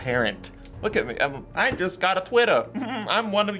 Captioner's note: giggles